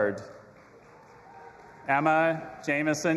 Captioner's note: audience applauding and cheering